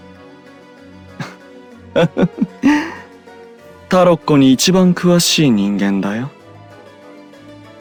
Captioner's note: laugh